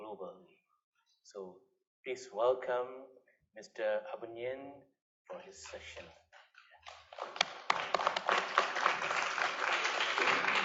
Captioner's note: applause